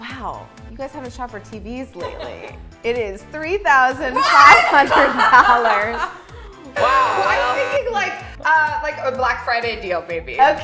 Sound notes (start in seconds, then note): 4.0 both girls gasp and laugh